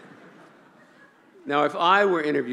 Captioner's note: laughing